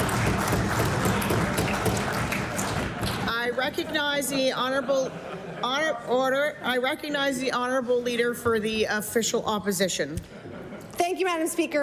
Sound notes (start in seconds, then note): 0.0 applause